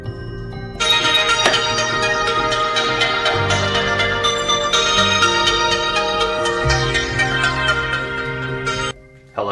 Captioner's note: cellphone ringing